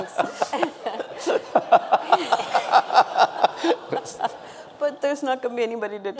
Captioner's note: audience and panel laughing